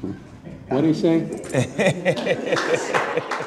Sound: laughing

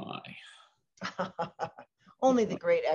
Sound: laughs

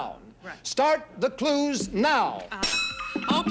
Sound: bell dings

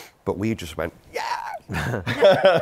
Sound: laughter

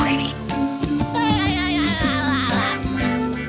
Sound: laughing

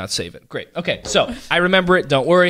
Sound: laughs

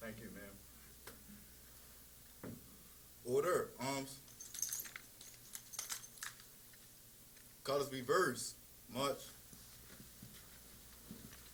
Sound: silence

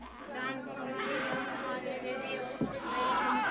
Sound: people praying in spanish

